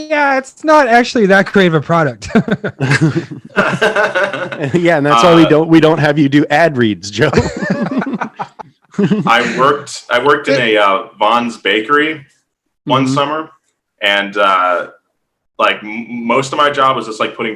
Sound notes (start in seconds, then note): 2.2 laughs; 7.2 hosts laughing